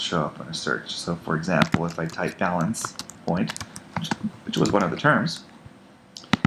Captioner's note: typing